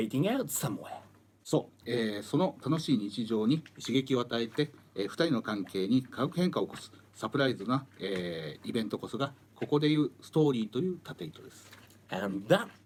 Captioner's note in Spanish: Hablando en japonés